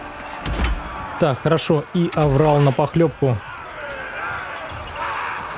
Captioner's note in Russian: крик